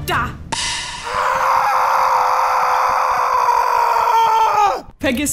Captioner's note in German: Schreie